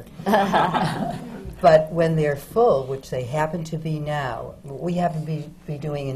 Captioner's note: laughter